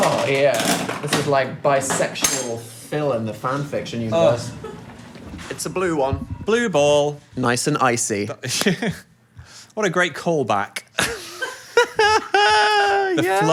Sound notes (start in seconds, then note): 8.7 chuckles; 11.0 laughs